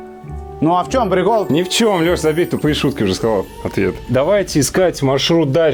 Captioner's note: evil sarcasm